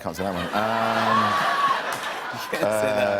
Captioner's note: laughter